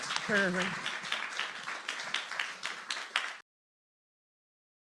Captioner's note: applause